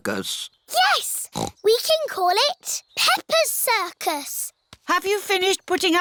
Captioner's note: snorts